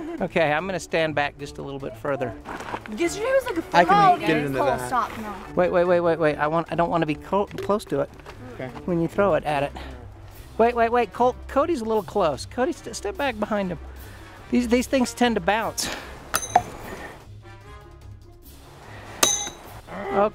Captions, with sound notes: Okay, I'm gonna stand back just a little bit further. I can get it into that! -- Oh! Cole! Stop! No! Wait, wait, wait, wait, wait! I want ... I don't want to be close ... close to it when you throw it at it. Wait, wait, wait, Cole! Cody's a little close. Cody, step back behind him. These things tend to bounce. [pinging sound] [another pinging sound]